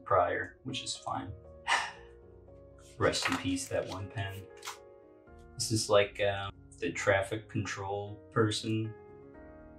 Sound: sigh

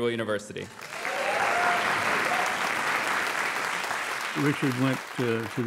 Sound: audience applauds

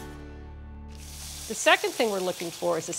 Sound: salmon sizzling

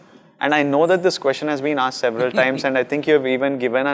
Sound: Sadhguru laughs

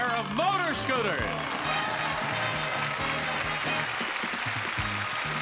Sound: audience applauding

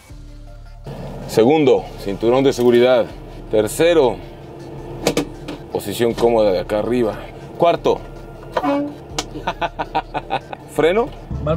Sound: laughter

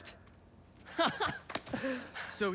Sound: laughs

